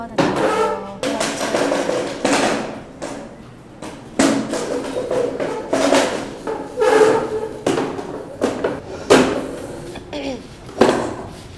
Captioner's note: loud noise of chair in background